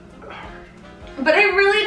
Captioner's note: sighing